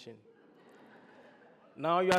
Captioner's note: audience laughs